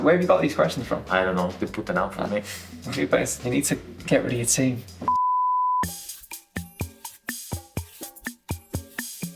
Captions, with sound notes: - Where have you got these questions from? - I don't know. They put them out for me. - You best, you need to get rid of your team. (screen beeping) (slow playful music)